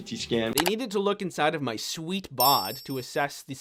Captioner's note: character chimes